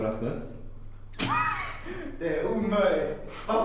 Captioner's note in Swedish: skrattar